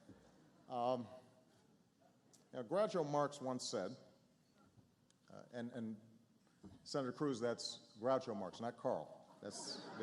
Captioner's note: laughter